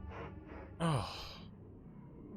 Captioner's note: Skull groans